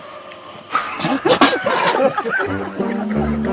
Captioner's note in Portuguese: Começando a rir